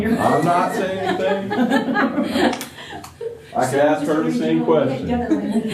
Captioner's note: laughter